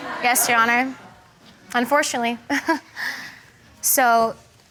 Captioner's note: laughs